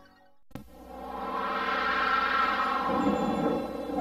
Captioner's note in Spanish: ruido silencioso sintetizado